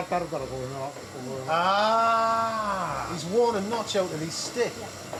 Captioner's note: speaks Japanese